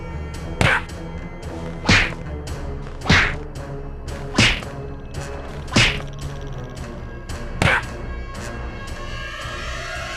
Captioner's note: punching